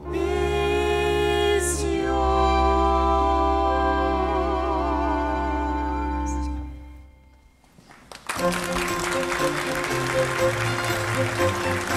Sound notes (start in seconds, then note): 7.7 audience applauding